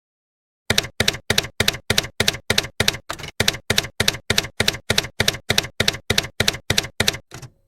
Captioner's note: typewriter keys clacking